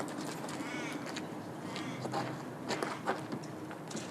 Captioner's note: bird cawing